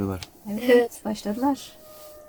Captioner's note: jackals howling